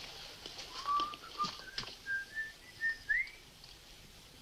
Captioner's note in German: Pfeifen